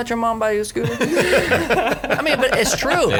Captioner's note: laughing